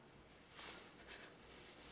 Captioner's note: Annie whimpers